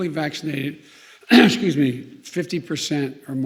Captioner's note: clears throat